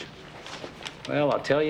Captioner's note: none